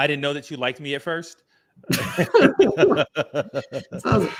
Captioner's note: laughter